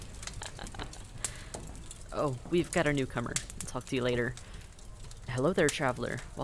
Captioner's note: laugh